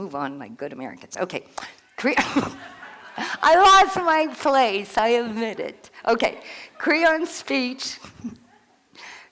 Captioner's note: laugh